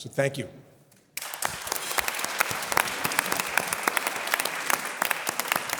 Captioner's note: audience applause